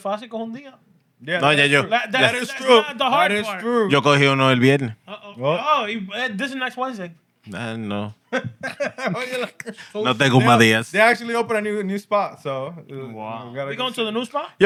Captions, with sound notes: (Speaking Spanish) No, that's true. That is true. That is true. That is true. (Speaking Spanish) This is next Wednesday. No. (Laughter) (Speaking Spanish) They actually opened a new spot, so-- Wow. We going to the new spot?